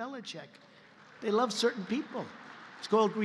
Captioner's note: applause